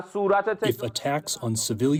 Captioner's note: through translator